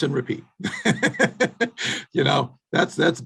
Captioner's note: laughing